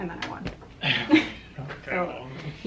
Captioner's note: laughs